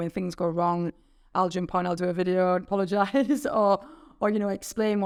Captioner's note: chuckling